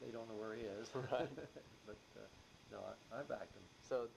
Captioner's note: laughs